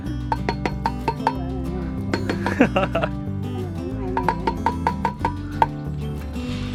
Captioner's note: talking